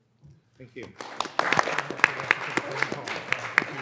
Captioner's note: all applauding